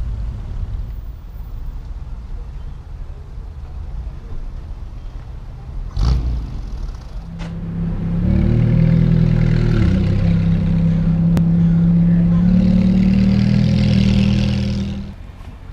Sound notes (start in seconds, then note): 9.0 roaring sounds of engine